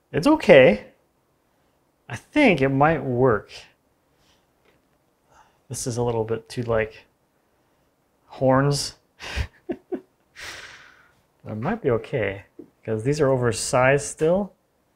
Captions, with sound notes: It's okay, I think it might work. This is a little bit too like horns. (laughs) But it might be okay 'cause these are oversized still.